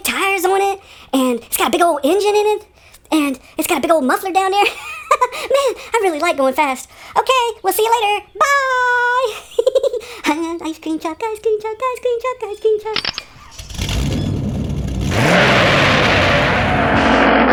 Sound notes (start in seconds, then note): 12.9 click; 13.0 engine starts; 15.3 skidding